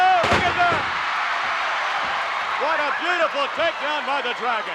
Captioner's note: applause